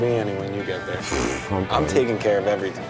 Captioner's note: blows a raspberry